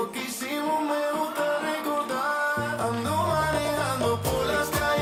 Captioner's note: audience cheering